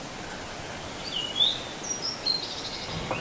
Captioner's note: birds chirping, forest rustling